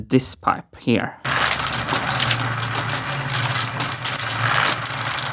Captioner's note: machine sounds